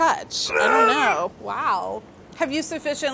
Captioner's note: Mark grunting